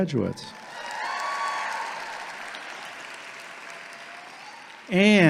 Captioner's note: audience clapping and cheering